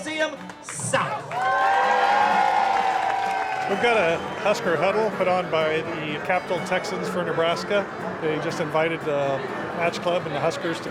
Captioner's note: cheering